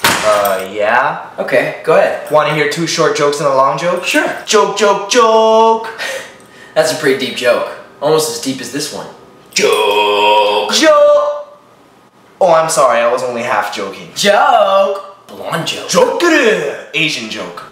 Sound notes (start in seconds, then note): 9.5 in a deep voice